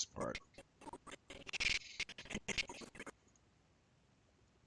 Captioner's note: audio skipping